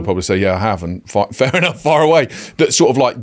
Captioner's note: chuckles